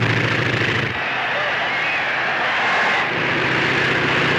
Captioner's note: crowd cheers; airplane motor revving